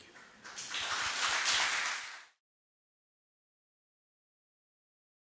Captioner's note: audience applauding